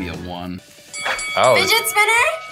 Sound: bell rings

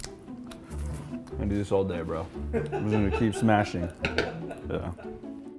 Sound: producer laughs

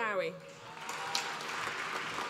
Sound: applause

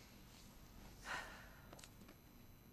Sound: scratching; sighs

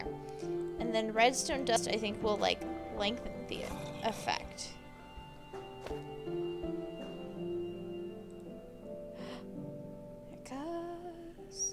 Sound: stand gurgles; gasp

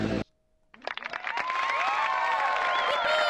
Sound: applause

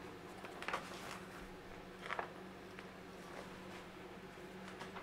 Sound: artwork rustling

